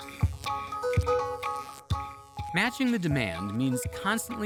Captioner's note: electric buzzing